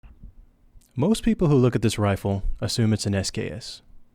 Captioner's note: voiceover